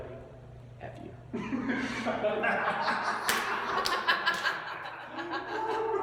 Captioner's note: laugh